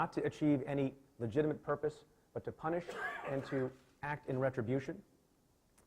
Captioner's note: coughing